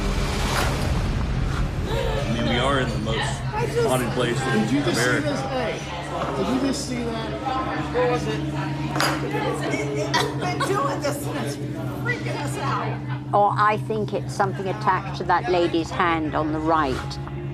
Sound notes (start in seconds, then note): 2.1 indistinct conversations